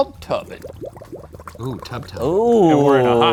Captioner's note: water bubbles